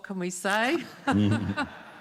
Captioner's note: laughter